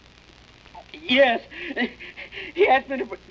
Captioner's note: panting